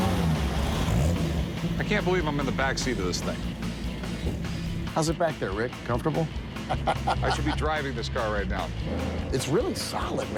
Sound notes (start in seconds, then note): 6.6 laughs